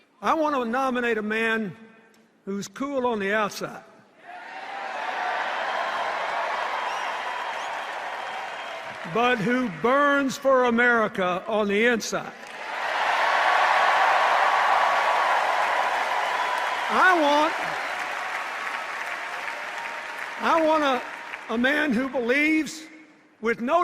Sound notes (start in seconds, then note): 4.3 applause and cheers; 12.4 sustained applause and cheers